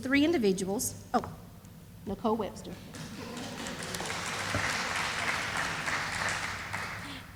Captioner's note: sound of applause